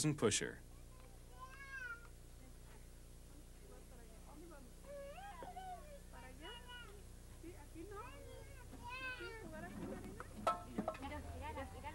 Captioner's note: people talking